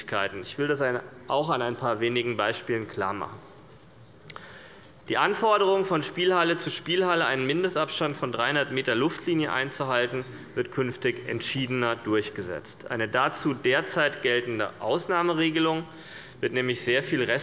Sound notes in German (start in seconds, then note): none